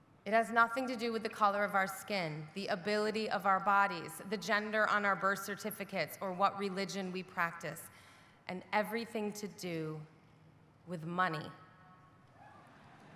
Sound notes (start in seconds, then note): none